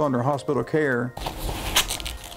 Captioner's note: cloth shuffling